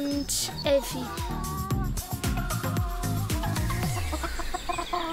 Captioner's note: cackling, music continues; music stops